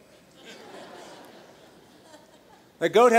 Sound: laughter

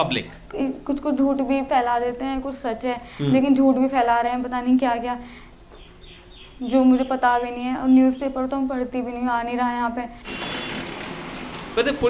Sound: non-english speech

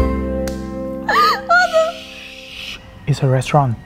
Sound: laughing

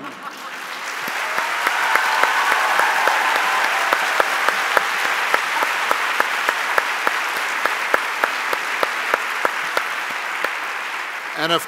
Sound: cheers and Applause

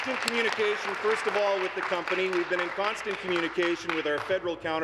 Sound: applause

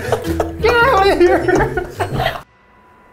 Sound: laughing

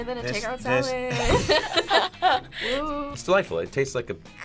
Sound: both laugh

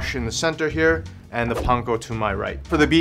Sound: air whooshing

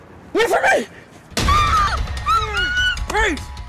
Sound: girl screaming

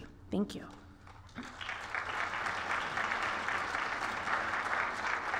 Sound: applause

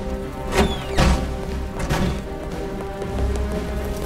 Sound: door slamming; dramatic music

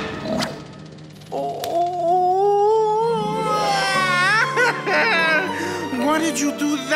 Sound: crying

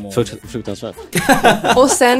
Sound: laugh

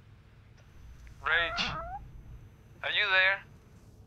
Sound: cat's meow

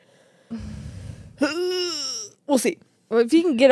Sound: strains

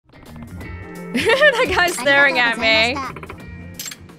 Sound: chuckles

